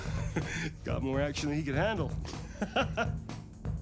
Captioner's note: laugh; laughs